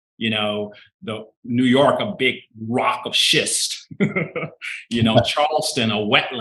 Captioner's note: chuckling